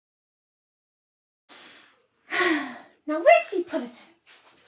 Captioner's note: relieved sniffing